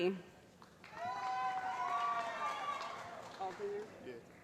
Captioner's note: cheering